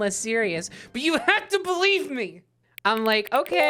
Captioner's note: aggressively